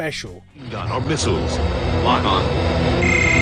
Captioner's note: movie trailer voice